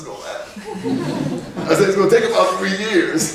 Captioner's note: laughing